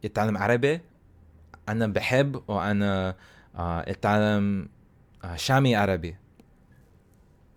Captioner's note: levantine Arabic